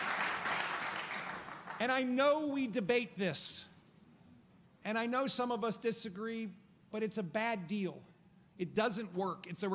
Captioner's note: applause